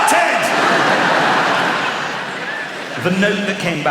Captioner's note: laughter